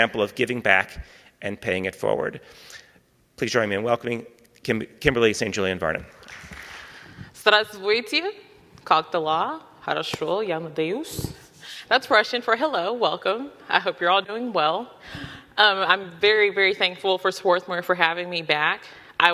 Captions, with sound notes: example of giving back and paying it forward. Please join me in welcoming Kimberly St. Julian-Varnon. (audience clapping) - (speaking in Russian) That's Russian for hello. Welcome. I hope you're all doing well. I'm very, very thankful for Swarthmore for having me back.